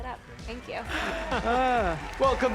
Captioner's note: both chuckles